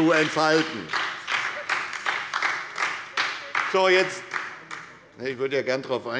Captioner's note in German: Beifall bei der SPD - Zuruf